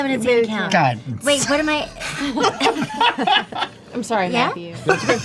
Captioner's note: laughter